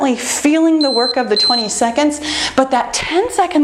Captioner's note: timer beeping